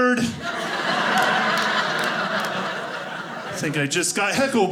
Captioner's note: audience laughing